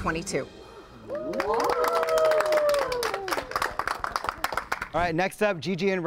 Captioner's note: group cheers and applauds